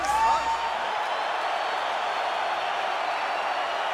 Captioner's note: crowd cheering